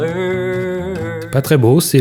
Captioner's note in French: chant